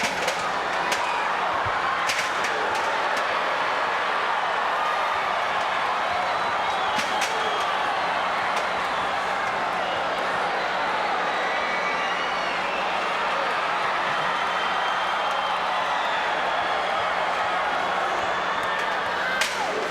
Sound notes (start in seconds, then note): 0.0 scaffold rattling; 14.3 crowd screaming